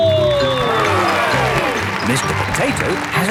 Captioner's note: cheering